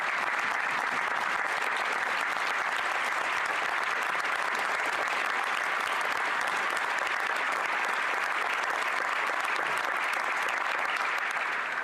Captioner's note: applause